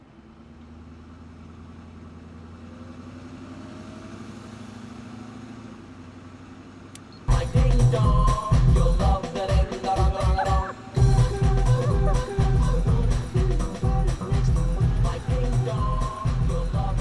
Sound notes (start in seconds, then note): 7.5 radio blaring; 12.9 laughing